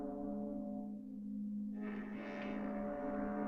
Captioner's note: creaking